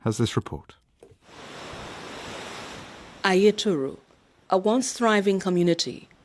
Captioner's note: waves crashing